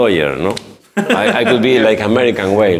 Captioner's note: laughs